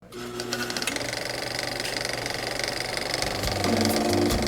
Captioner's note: film starting sound effect